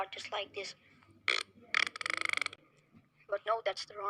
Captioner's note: the normal fart